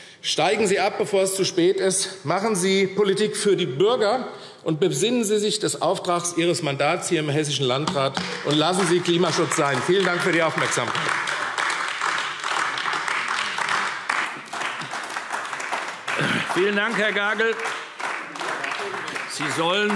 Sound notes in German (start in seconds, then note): 11.9 Beifall AfD